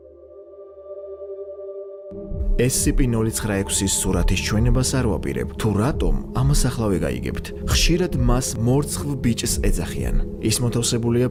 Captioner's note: Georgian